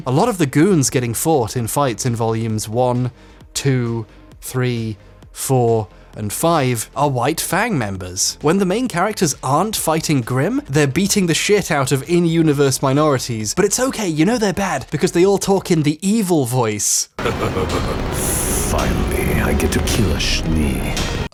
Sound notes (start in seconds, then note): 17.2 man laughs unsettlingly